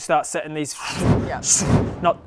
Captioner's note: swoosh